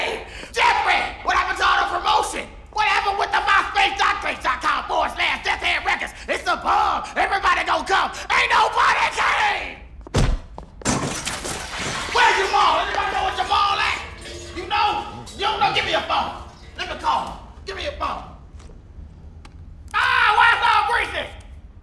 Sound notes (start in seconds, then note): 10.8 crash